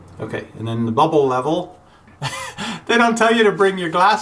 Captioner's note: voiceover; laughs